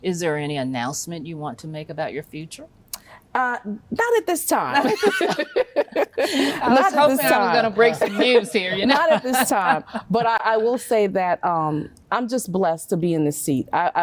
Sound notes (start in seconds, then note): 4.8 everyone chuckles